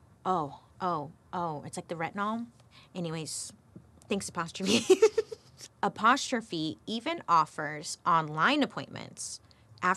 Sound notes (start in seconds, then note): 4.7 chuckles